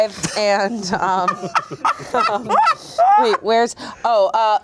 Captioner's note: everyone laughs